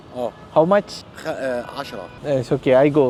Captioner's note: speaking Arabic